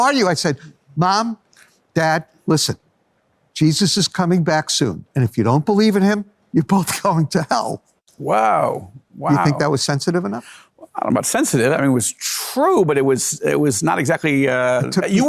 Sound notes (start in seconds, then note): 7.1 laughs